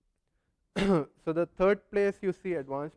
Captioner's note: cough